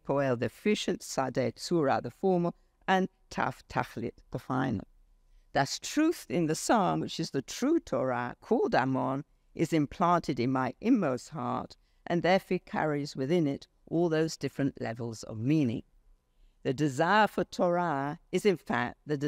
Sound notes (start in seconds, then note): 0.1 speaks foreign language